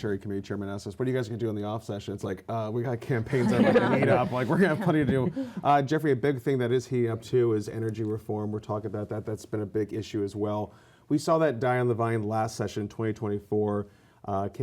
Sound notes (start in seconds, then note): 3.3 laughter